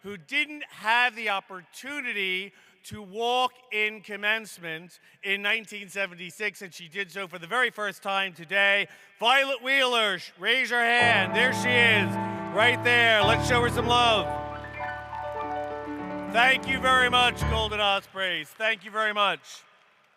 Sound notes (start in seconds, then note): 15.6 applause